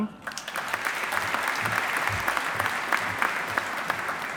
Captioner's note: audience applauding